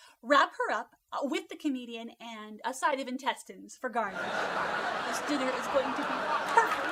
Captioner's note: audience applauding